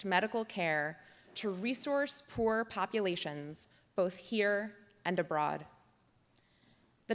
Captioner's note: none